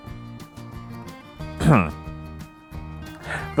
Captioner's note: grunt of shame